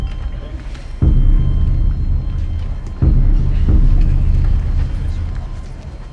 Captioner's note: senators chattering indistinctly